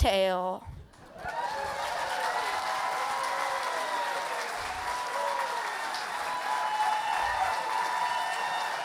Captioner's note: applause and cheers